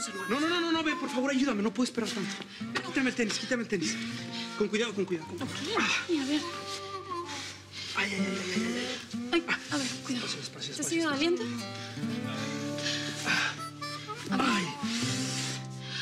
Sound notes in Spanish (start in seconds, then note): 6.4 quejidos